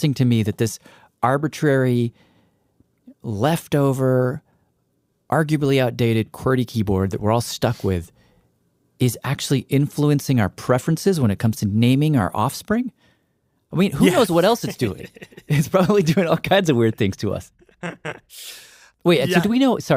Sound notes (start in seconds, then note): 13.9 laughs